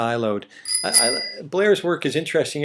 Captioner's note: sound of bicycle bell